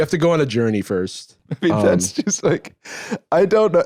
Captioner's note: laughing